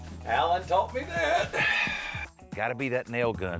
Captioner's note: sighs